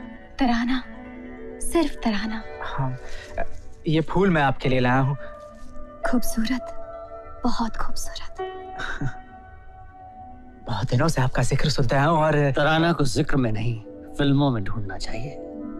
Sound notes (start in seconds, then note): 8.8 chuckles